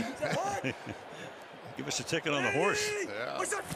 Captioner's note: laughs